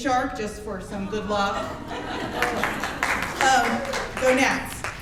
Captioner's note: audience laughs and claps